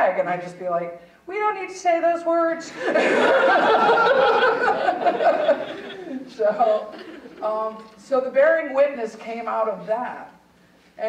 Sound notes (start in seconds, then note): 2.7 audience laughing; 2.7 laughing